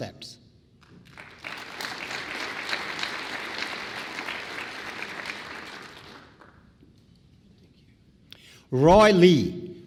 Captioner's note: applause